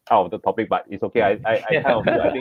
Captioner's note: laughter